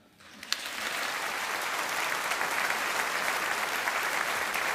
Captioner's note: audience applauding